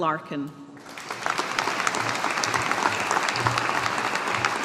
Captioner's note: audience applauding